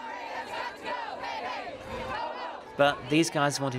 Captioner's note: all chant